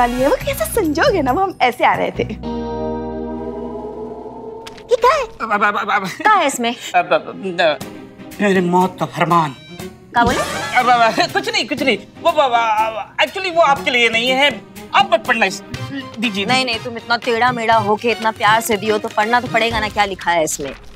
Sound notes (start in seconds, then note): 5.6 stammers; 7.2 stammers; 12.2 stammers